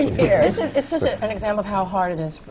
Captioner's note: laughs